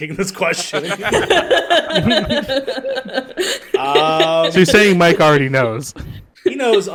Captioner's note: laughter